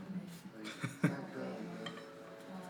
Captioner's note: chuckle